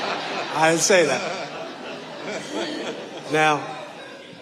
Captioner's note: audience laughing